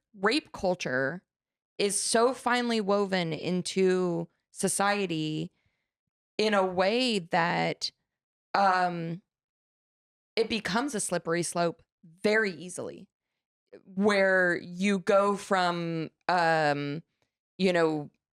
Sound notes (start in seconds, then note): none